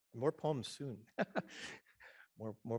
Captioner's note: laughing